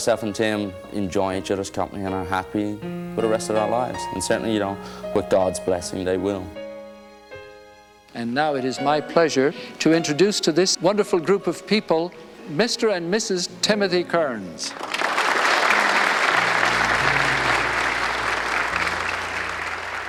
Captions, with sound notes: and that our self and Tim enjoying each other's company, and are happy for the rest of that lives. And certainly, you know, with God's blessing, they will. - And now it is my pleasure to introduce to this wonderful group of people. Mr and Mrs Timothy Kerns. (everyone applause)